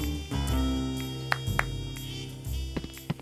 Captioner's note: claps